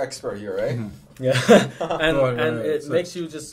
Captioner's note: laughs